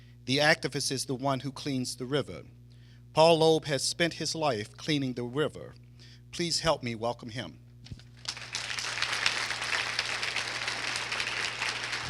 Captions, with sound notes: The activist is the one who cleans the river. Paul Loeb has spent his life cleaning the river. Please help me welcome him. [APPLAUSE]